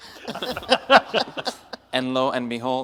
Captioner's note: audience and panel laughs